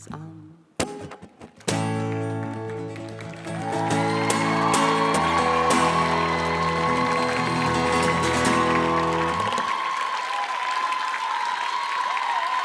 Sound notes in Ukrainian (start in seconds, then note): 1.6 оплески